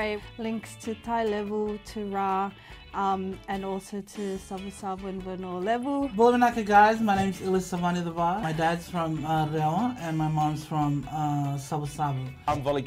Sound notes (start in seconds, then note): none